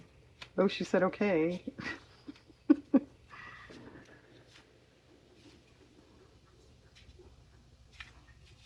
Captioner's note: laughs